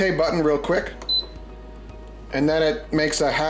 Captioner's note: beeps